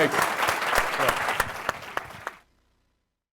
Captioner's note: applause